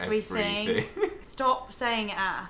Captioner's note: laughing